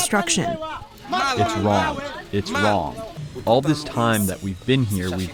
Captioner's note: through translator